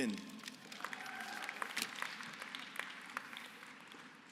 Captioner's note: applause